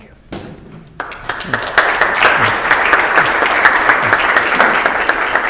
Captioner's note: applause